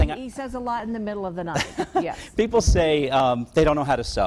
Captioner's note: laughing